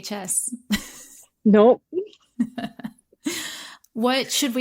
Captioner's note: laughter